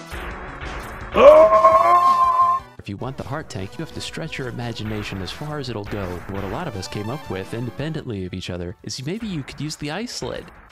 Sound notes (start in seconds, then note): 2.7 screams triumphantly